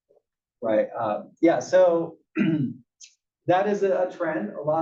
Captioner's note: cough